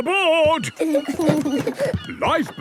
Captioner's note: both giggle